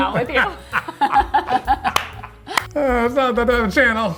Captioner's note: laughing